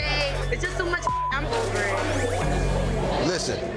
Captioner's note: beep